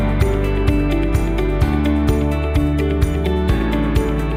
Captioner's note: none